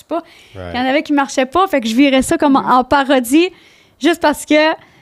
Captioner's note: in french